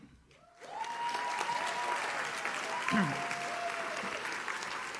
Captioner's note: audience cheers